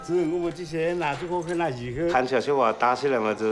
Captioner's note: speaking Chinese dialect